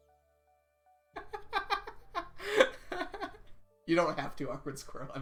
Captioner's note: laughs